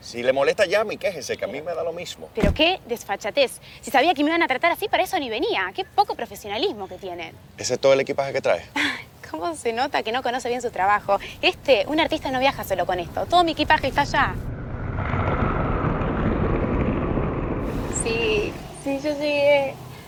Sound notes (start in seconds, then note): 2.4 door Closing; 10.5 nervous Laugh; 13.0 airplane Flying